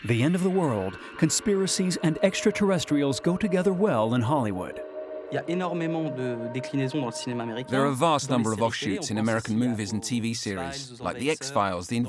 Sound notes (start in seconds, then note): 5.6 speaking foreign language